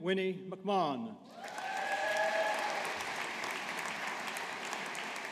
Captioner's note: audience applauding